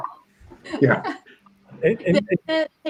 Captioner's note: laughter